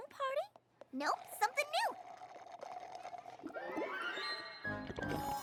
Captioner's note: slurp!